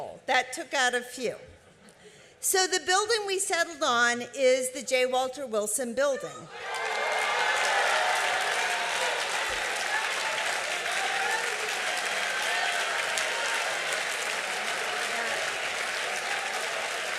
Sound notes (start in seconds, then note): 6.8 cheering and applause